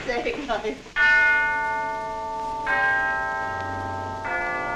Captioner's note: clock chiming